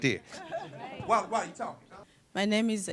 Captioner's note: laughter